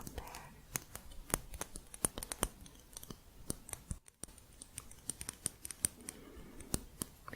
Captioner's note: light tapping